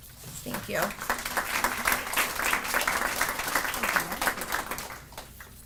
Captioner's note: audience applauding